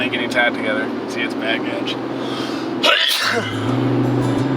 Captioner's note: sneezes